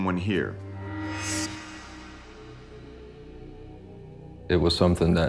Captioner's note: burst of sound